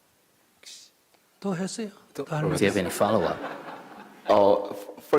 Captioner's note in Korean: 청중 웃음